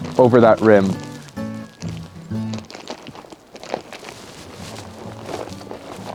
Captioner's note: bag rustling